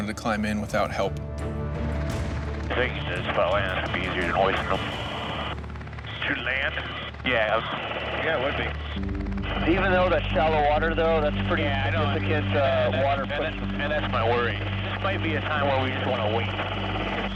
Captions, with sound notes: to climb in without help. (intense music) - [Man On Radio] I figure on land, it would be easier than hoisting 'em. - To land. - Yeah. - Yeah it would be. Even though that's shallow water through, that's a bit of water pressure. - [Man On Radio] I know and that's my worry. This might be a time where we just wanna wait.